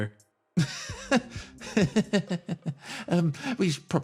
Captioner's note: Gartrinus Laugh